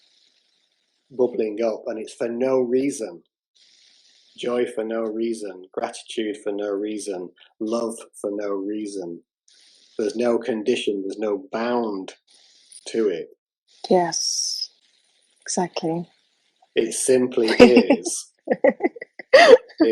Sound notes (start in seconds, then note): 17.4 laugter